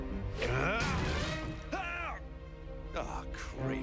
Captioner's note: grunts